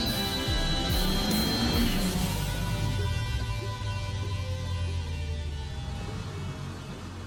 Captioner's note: engine rumbles